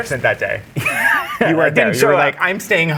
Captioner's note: guy laughing